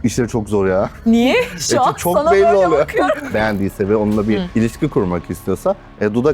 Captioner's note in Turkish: kahkaha